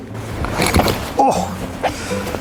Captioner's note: rustling fabric